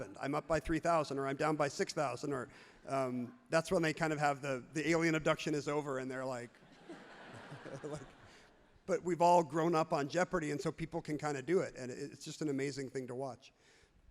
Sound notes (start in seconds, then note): 6.8 everyone laughs happily